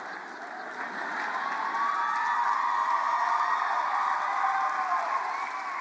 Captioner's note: cheers and applause